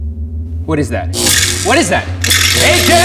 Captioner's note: electric discharge